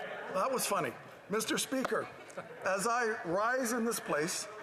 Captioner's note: some applause